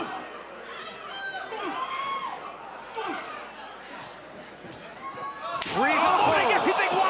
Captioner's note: crowd chatter